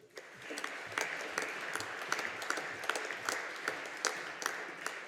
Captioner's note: audience applauding